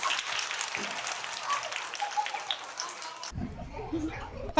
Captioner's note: applause